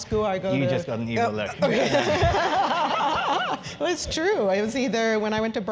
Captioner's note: laugh